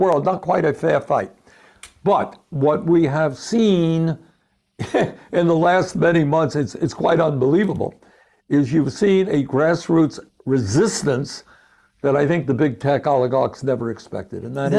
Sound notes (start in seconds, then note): 4.8 laughs